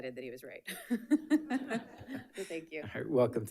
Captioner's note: all laughing